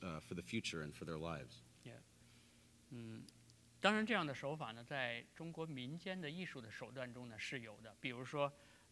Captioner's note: speaking in Chinese